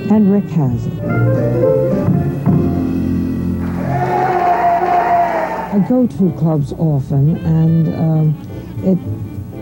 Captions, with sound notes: And Rick has it. (audience cheers) I go to clubs often and it takes a lot